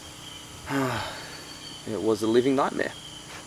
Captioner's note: sighs